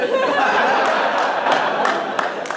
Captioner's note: laughter